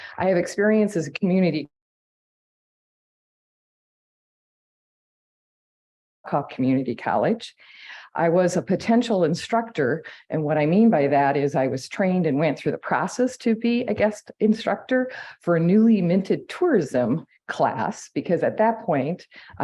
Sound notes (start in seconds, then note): 2.2 audio cuts out